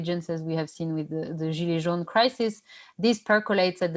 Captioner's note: non-english speech